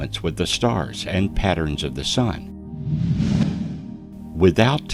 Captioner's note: air whooshing